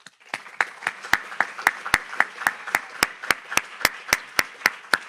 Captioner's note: audience applauds